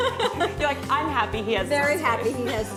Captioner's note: laughter